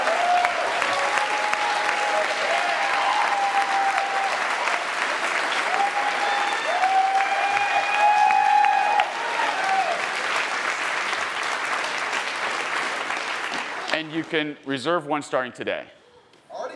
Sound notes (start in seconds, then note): 2.7 cheering and applauding continues